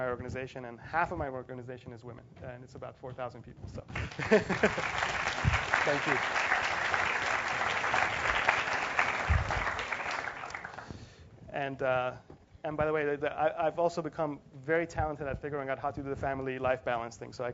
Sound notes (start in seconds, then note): 3.9 applause; 4.0 laugh; 7.4 applause